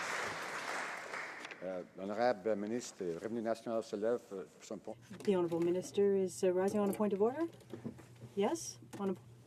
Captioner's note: some Applause